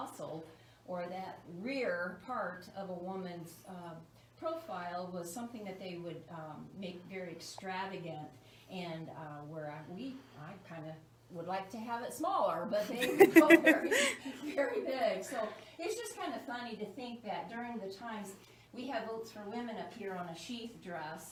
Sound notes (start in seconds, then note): 7.5 laugh